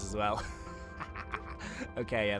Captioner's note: laughing loudly